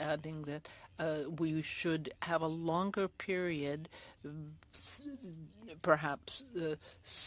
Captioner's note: speaking French